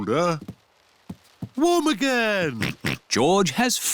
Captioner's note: oinks